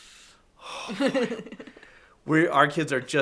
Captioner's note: laughs